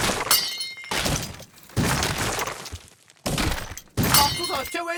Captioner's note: furniture breaking inside the house